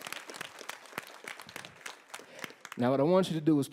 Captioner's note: applause